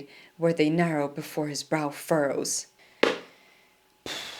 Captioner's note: sighing